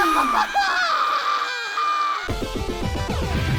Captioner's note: Griselda sighs; Asuna shrieks; Kirito screams